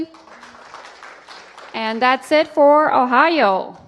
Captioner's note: applause